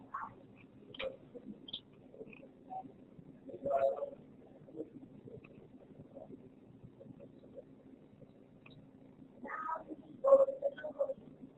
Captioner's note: silence